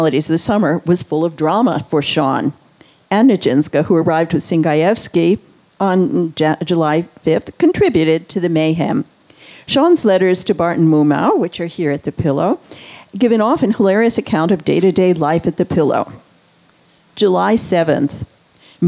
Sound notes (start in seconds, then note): none